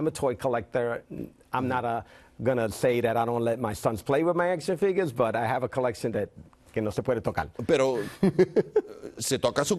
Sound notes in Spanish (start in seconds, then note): 8.0 riendo